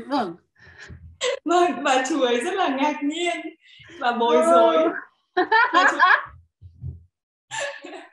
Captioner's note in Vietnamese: cười